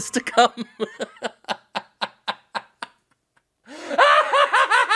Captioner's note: Jim laughing heartily